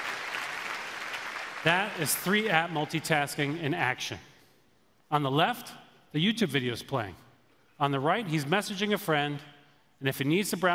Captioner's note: applause